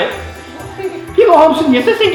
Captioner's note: kids giggle